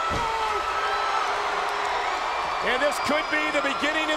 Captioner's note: crowd booing